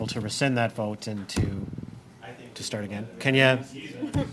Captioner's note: laughter